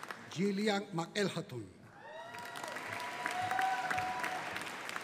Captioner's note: audience cheering